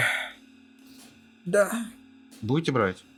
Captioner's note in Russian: вздох